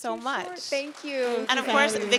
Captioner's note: audience applauds